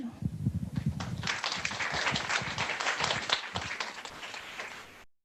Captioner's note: audience applauding